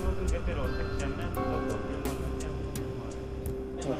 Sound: speaking native language

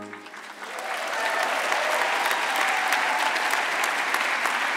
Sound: audience clapping

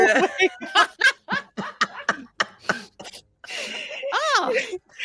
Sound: all laughing

